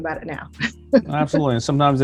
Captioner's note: laughs